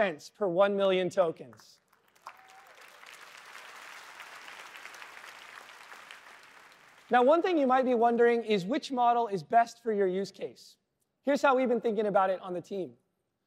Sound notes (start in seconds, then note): 1.5 applause